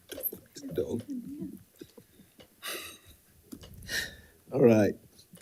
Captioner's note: speaking faintly